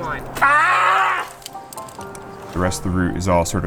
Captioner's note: screams